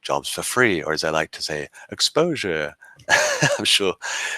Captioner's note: laughing